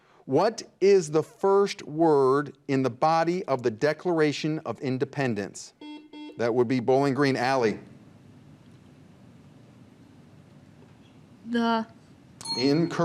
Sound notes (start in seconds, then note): 5.8 buzzer beeps; 12.4 bell dings